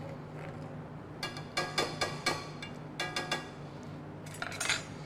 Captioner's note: utensil thudding